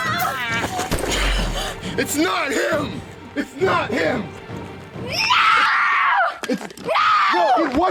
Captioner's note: bang